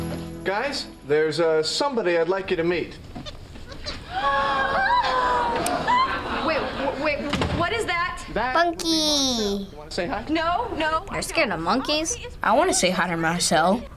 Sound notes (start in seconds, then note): 3.7 Rachel squeals